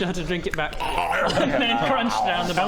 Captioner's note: arggghhanom